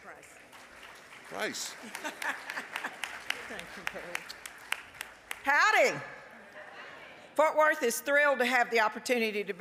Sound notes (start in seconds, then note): 1.9 applause; 6.7 crowd